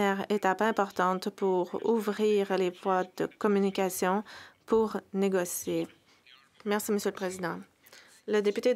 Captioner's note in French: voix de l'interprète